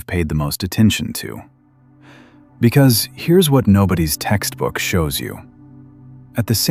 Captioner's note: breath